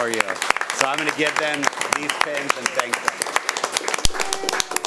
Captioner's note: audience cheering and applauding